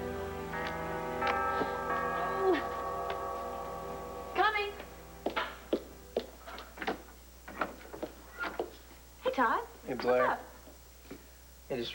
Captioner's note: doorbell rings